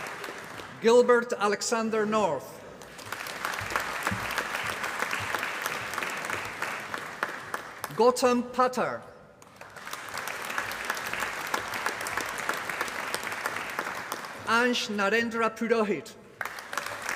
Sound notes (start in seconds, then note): 0.0 applause; 2.7 applause; 16.3 applause